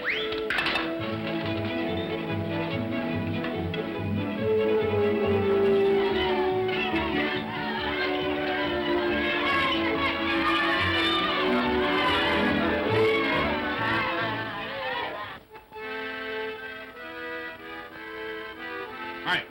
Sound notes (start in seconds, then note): 0.3 whimsical music; 5.9 children's voices; 15.3 accordion plays